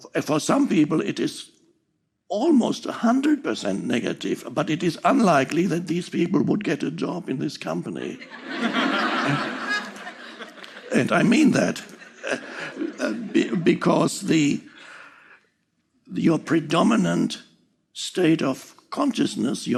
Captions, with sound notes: For some people it is almost a hundred percent negative, but it is unlikely that these people would get a job in this company. (audience laughing) And I mean that because the, your predominant state of consciousness,